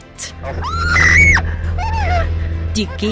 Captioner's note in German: schreit